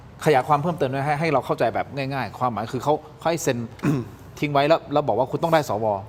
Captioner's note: clears throat